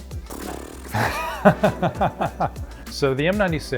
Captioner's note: laughs